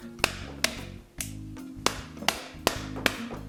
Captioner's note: clicking